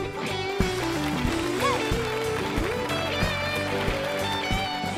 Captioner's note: applause